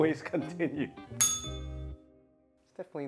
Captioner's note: bell rings